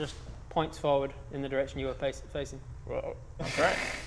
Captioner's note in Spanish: ribbit